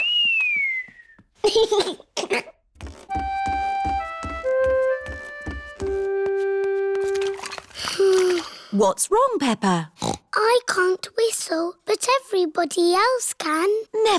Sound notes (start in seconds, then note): 0.0 whistling and giggling; 7.8 sighs; 10.0 snorts